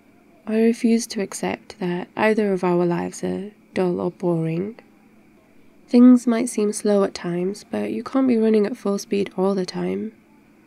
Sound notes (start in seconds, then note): none